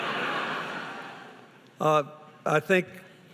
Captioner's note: laughing